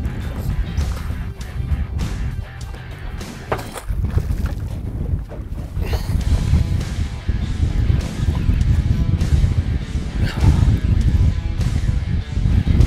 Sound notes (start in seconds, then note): 3.7 water splashing; 5.8 intense rock music